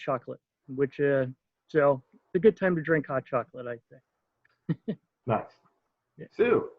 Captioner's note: chuckles